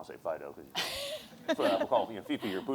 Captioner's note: laughter